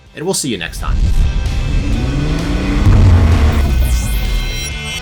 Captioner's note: engine revving